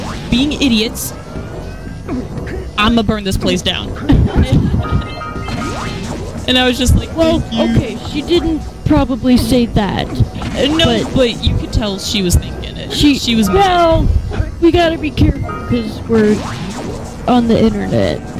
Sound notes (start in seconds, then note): 4.0 laughter